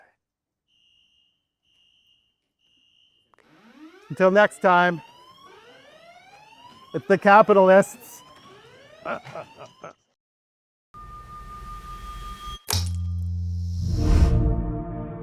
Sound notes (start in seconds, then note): 2.8 alarm ringing out loudly; 9.0 laughs happily; 12.6 light intense music